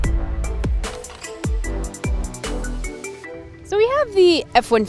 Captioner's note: uptempo electronic music; logo clacking